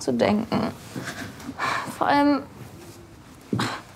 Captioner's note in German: Seufzen